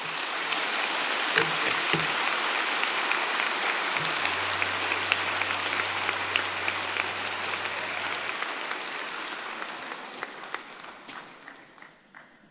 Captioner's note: applause